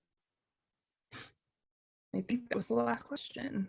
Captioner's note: sniffles